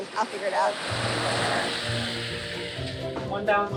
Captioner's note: loud grinding